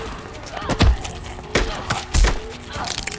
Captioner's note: vampire growls; punch thuds; body crackling